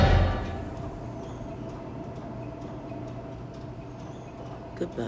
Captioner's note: machinery clunking